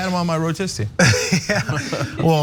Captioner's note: laugh